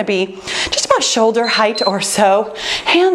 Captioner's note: timer beeps